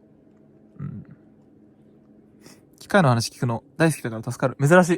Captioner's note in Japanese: pcの処理音